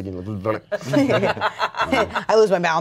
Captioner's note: everyone laughs